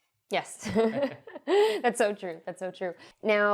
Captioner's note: both laugh